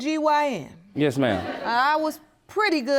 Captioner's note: audience laughing